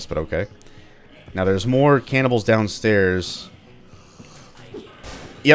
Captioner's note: Manslayer Shotgun blast